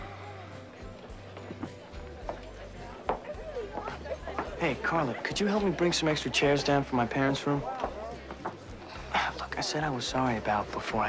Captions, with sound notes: (shoes clicking) - Hey, Karla, could you help me bring some extra chairs down from my parents' room? (sighs) Look, I said I was sorry about before.